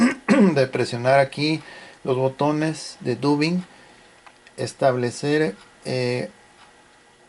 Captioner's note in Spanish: carraspeo